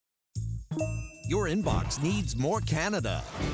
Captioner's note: notification chimes